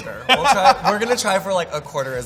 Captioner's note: laughs loudly